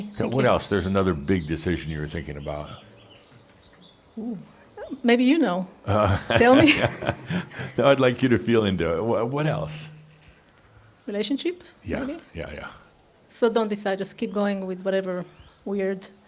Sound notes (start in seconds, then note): 5.8 Adamus chuckles; 5.9 she chuckles